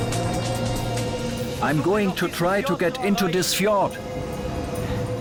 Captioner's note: in German